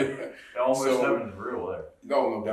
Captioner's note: laughing